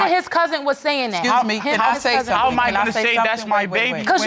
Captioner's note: all arguing